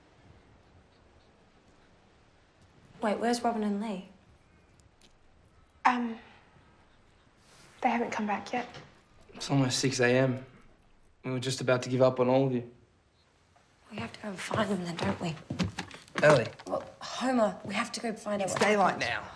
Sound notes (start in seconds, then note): none